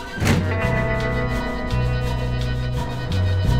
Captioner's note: door slams